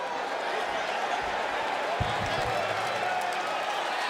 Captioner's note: crowd murmuring